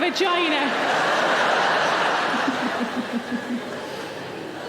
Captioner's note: audience laughing